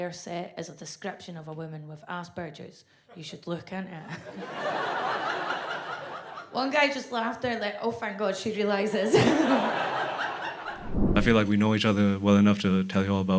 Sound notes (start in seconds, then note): 4.2 audience laughs; 9.1 audience laughs